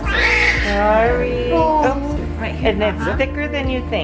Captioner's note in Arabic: طفل يبكي